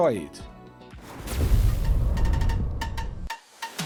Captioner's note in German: Explosion des BK42-Logos